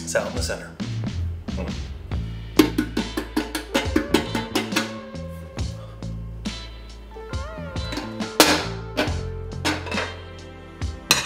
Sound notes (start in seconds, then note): 0.0 coughs; 2.5 pan thuds; 9.5 plate clatters